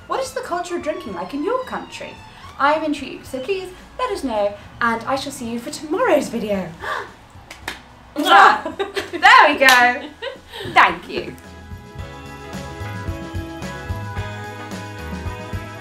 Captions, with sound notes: What is the culture of drinking like in your country? I'm intrigued, so please let us know and I shall see you for tomorrow's video. (gasps) There we go, thank you. (cheerful music)